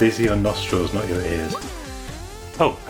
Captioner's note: pop!